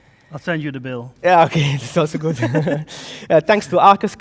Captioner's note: laughs